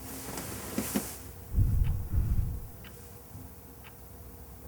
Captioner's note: banging